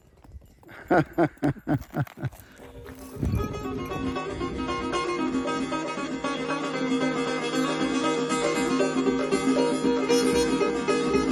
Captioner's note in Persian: خنده